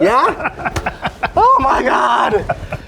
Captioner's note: laughing